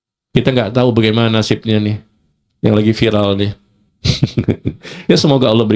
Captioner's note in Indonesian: tertawa